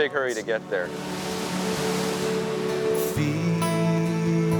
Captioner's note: water splashing